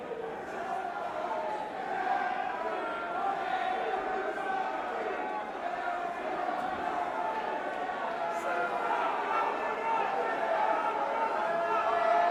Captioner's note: crowd chatter